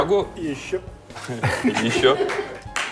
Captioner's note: laughs